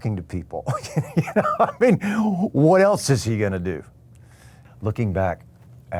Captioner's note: laughs